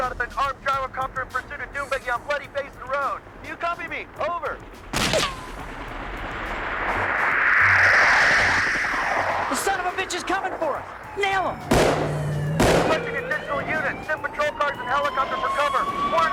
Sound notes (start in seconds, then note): 4.5 gunshots popping; 7.9 helicopter buzzing; 11.3 gunshots booming; 12.2 siren alarming